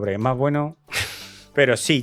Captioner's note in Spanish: risa nerviosa